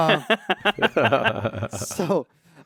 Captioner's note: laughs